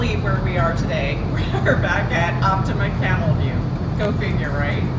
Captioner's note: chuckling